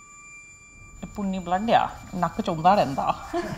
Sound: Mother speaking Punjabi; laughter

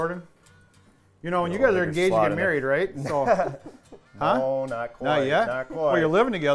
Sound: laughing

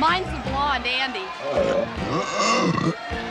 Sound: Andy burps

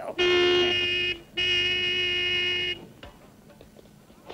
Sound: horn blares

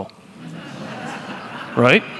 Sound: laughter

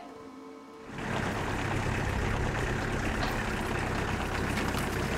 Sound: engine purring

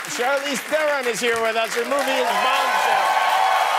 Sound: cheers and applause

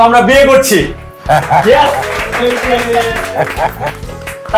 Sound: applause

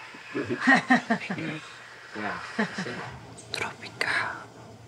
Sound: speaker laughing

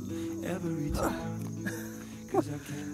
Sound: grunt; laugh

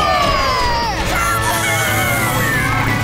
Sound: squeaking

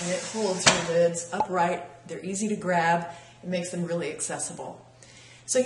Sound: pop

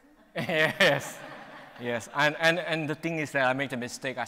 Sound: audience laughs

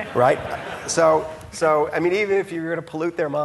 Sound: audience laughing

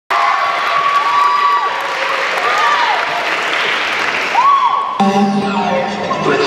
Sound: cheers and applause

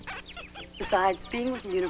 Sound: ham squeaks

